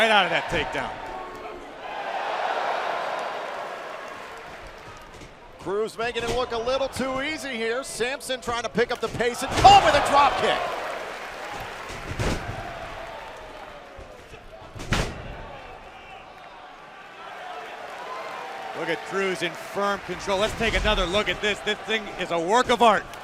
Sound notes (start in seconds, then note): 12.5 cheers & applause